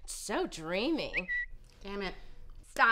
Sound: tweet

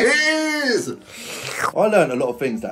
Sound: slurps

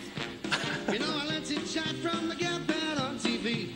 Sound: Jim laughs

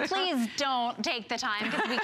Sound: laughter; laughter

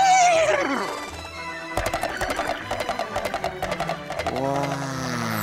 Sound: neighs; thudding hoofbeat

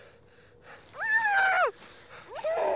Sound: scream

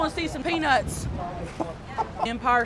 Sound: laughing

